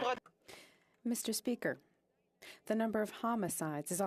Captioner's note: speaking French